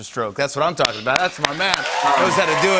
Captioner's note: cheers and applause